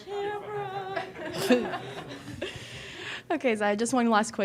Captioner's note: all laughing